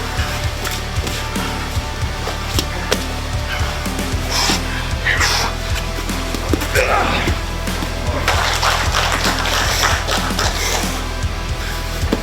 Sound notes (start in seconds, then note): 6.7 man grunts; 7.7 audience clapping